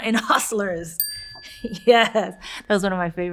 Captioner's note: bell dings